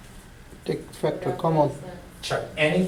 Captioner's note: voiceover